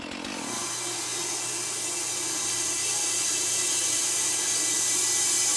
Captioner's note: distant sound of Matt's saw